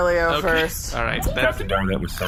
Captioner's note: smokes loudly